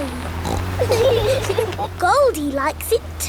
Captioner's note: laughing